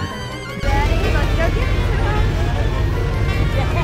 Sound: engine roaring

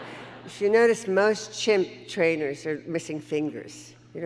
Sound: audience laughing

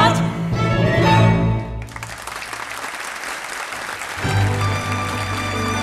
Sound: audience applauding

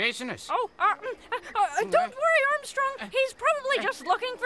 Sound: stammers

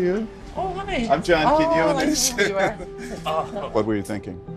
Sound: laughing

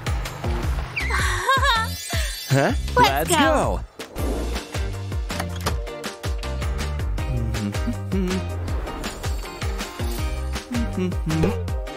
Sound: making frightened sounds

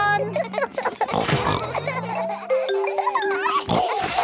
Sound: all laughing; giggles, snorts

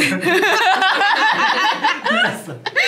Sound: laughing

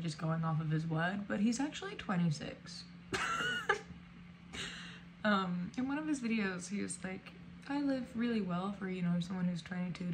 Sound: laughs

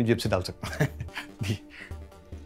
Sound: Keshav laughs

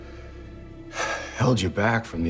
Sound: sighs

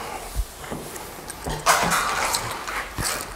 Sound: crushing

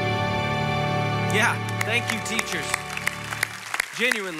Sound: congregation applauding

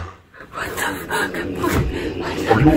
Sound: zuck sounds

